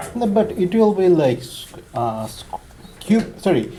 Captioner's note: voiceover